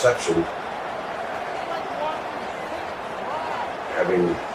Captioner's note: crowd Noises